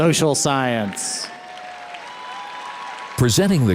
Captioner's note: audience cheers and applauds